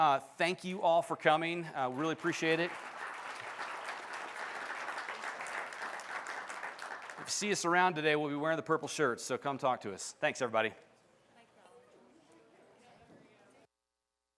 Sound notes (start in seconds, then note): 3.3 applause